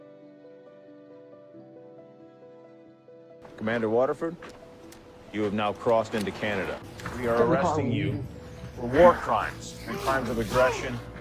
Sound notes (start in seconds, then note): 3.7 voiceover; 5.5 voiceover